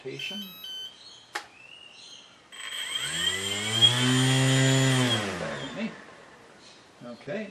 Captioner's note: motor running